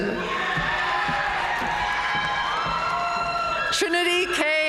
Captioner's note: audience cheering and applauding